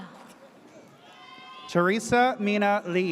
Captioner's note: audience cheers